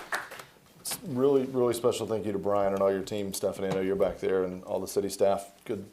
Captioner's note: applause